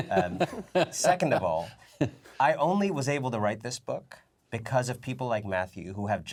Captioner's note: laughter